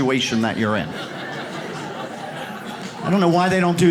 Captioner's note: audience laughs